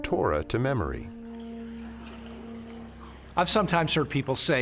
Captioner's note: voices whispering